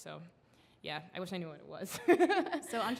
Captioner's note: laughs